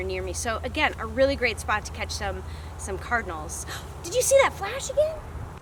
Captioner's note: gasp